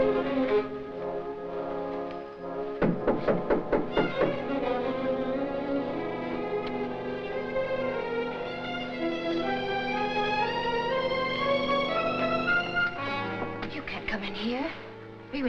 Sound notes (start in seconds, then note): 2.8 knocking on door; 7.3 intense music